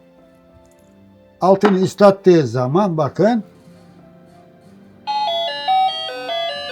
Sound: doorbell sound

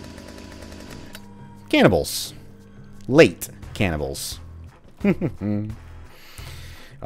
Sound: sly chuckle

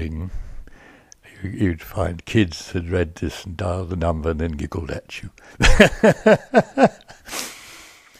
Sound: laughs

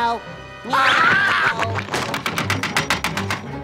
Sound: screaming

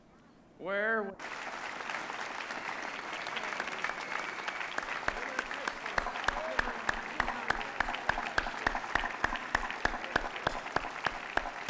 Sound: applause

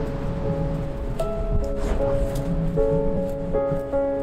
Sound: sand scratching

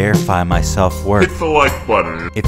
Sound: pitched down

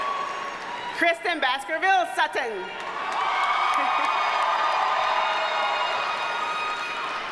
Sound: audience cheers and applauds

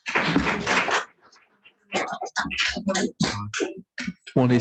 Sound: audience applauds

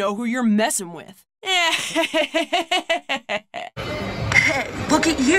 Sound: laugh

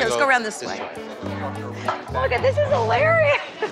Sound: both laughing

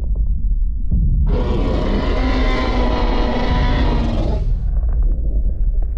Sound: T-Rex roar

